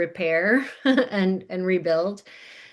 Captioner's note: laughing